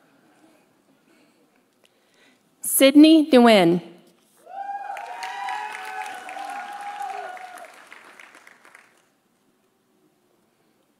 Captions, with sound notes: Sydney Duwin. (audience cheering) (audience applauding)